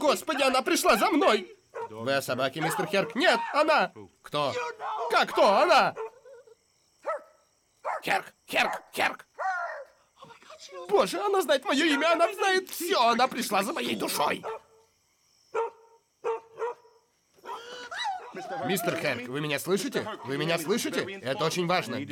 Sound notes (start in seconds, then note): 6.0 whimpers; 9.3 barking; 16.2 barking; 17.4 whimpering